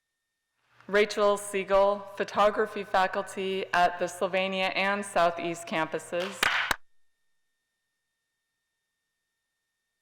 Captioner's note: crowd applause